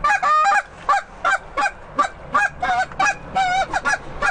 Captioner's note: goose call